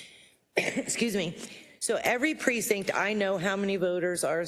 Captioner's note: cough